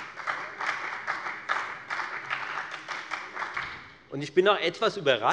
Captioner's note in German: Beifall bei der FDP und bei Abgeordneten der SPD